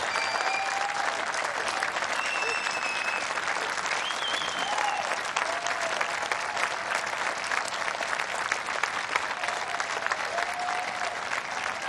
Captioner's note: cheers and applause